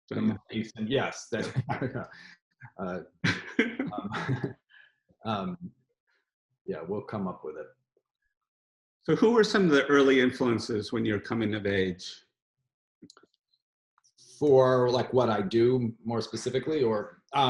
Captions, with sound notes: - Yes. (laughs) Yeah, we'll come up with it. - So who were some of the early influences when you're coming of age? - For, like what I do, more specifically, or?